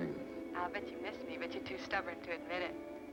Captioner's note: on phone